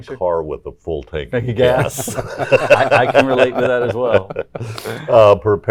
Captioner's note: laughs